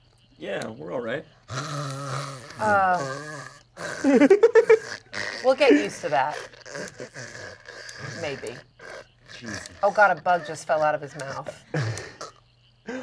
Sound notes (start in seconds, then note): 1.5 snores; 3.8 laughs